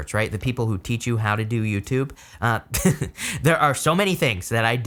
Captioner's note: laughs